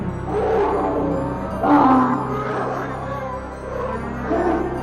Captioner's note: growling coming from the bedroom